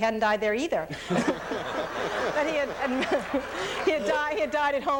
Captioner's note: audience laughs